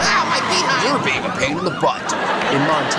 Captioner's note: laughter